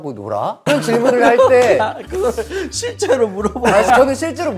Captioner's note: laughing